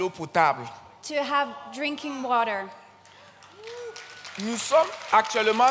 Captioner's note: continues in French; audience cheers and claps; continues in French